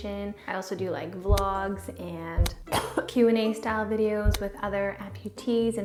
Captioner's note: coughs